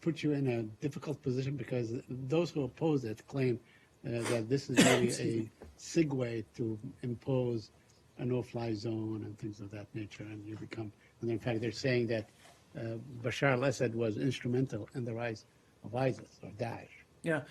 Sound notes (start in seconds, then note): 4.1 coughs